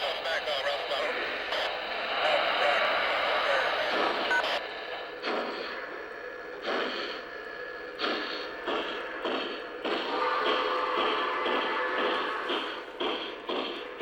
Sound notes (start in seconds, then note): 5.0 train chugging